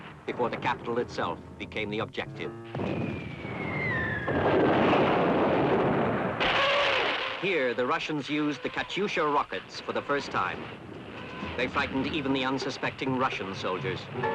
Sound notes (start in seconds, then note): 2.7 explosions; 2.9 shell whistling